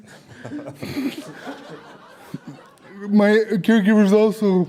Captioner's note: audience Laughter